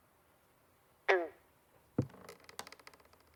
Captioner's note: frog croaking